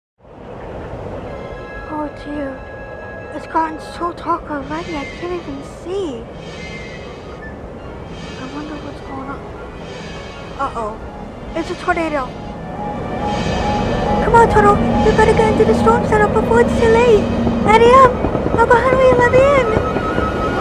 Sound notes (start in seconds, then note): 6.4 wind grows louder; 12.4 wind gets even louder; 17.7 knocking on the storm cellar doors